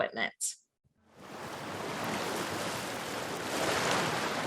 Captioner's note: waves crashing